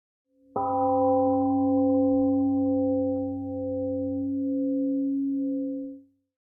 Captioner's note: 🎵 Temple gong rings and fades 🎵